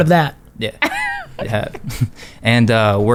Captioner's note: laughs